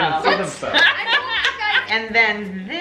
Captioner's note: everyone laughs